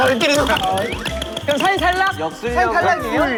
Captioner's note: merciless toy hammer strikes